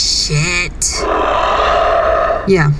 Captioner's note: Flint sighs, disappointed